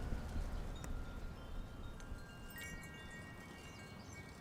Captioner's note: gentle chiming